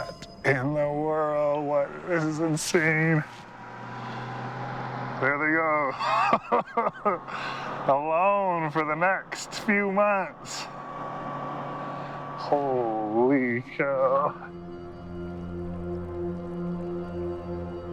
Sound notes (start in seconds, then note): 5.1 laughs